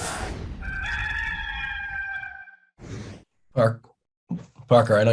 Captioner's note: rooster crowing